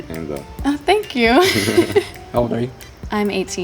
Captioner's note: laughs